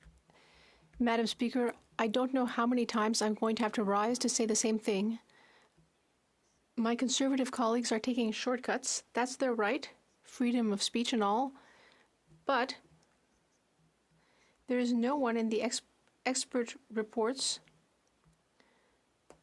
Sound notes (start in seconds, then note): 6.1 speaking French